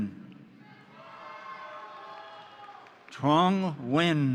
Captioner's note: crowd cheering; crowd applauding